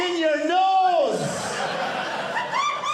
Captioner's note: audience laughing